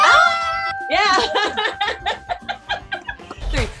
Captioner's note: women cheer; bell dings; Carrie Anne Inaba laughs